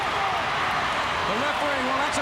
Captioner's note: crowd cheering